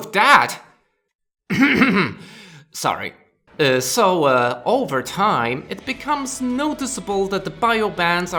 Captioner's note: coughs